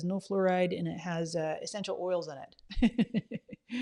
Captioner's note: laughs